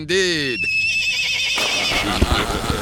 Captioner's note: horse neighs; soldiers laugh